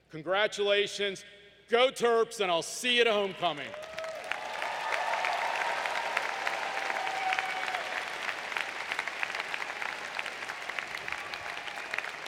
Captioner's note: applause